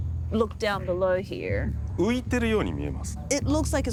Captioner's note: speaking Japanese